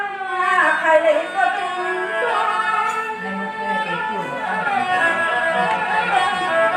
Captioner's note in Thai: ปรบมือ